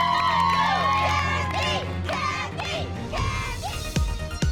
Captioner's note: cheering; chanting